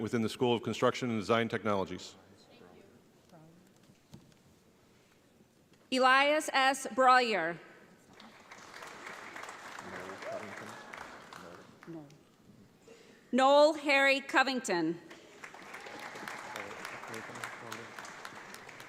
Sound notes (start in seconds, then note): 8.1 audience applauds; 15.1 audience applauds